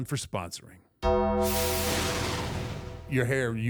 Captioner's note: bell clangs; logo whooshes